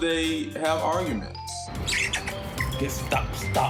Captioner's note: chittering